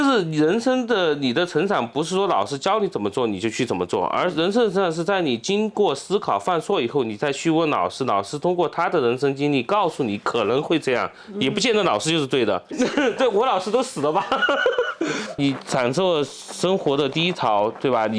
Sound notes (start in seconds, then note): 13.6 laughter